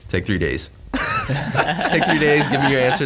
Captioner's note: all laugh